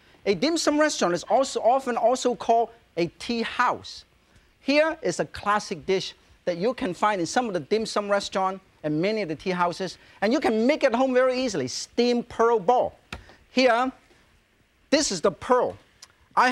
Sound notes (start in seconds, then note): none